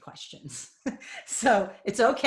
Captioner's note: laughing